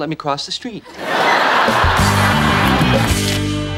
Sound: audience laughing

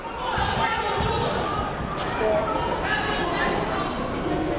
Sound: people shouting in the crowd

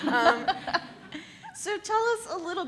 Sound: laugh

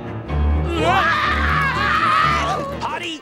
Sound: screaming

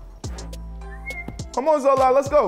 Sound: snapping fingers; whistles

